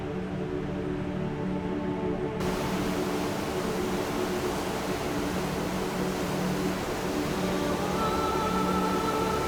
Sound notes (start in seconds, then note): 2.4 water falling